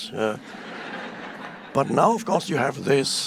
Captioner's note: audience laughing